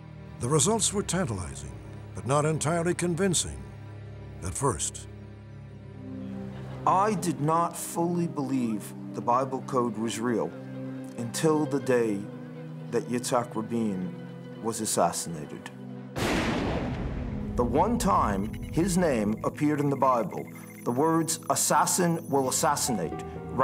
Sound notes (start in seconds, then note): 16.2 gunshots